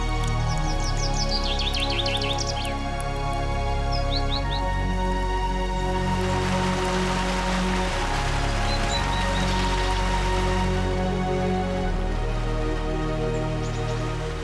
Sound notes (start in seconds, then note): 0.3 birds sing; 5.3 gentle music; 6.8 water sloshes; 11.3 gentle music